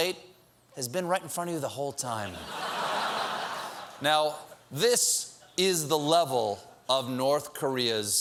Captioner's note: laughter